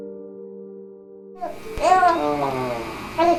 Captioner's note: baby cooing